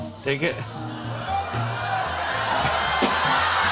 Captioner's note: audience groans; cheering